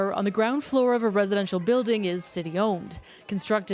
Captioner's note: cheers